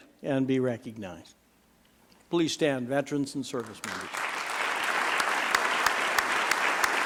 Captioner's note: applause